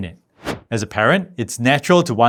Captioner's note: air whooshing